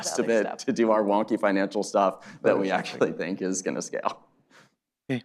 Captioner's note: laughs